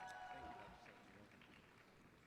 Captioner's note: applause